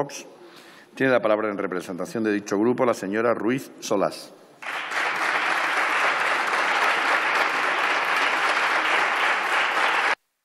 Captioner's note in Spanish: Aplausos